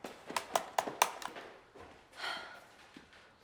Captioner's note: mouse clicking loudly; sighs